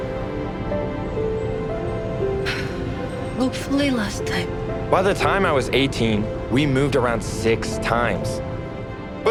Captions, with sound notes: (sighs) Hopefully, last time. By the time I was 18, we moved around six times.